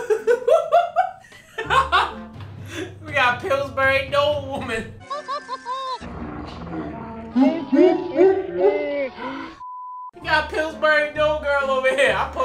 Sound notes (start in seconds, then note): 0.3 laughing; 5.0 laughing